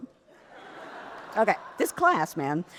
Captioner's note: audience laughs